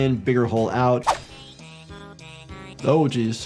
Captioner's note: mellow music; air whooshing